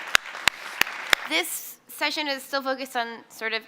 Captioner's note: applause